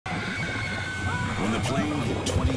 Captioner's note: passengers scream